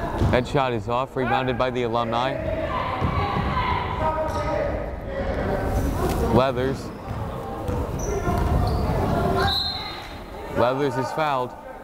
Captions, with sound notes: That shot is off, rebounded by the alumni. Leathers. (whistle blows) Leathers is fouled.